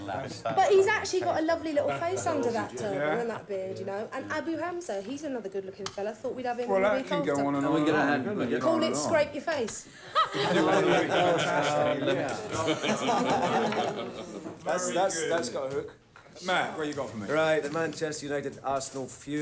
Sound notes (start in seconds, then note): 10.1 laughing